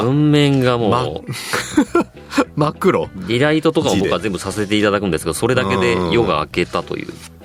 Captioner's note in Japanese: 笑い